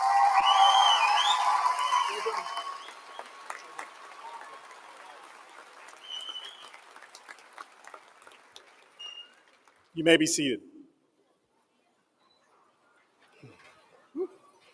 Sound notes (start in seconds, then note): 0.0 applause